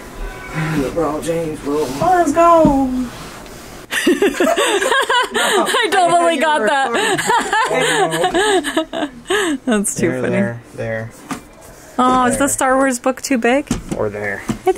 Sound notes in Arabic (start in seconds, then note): 3.9 الكل يضحك